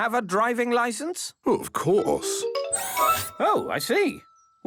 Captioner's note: mechanical arm whirring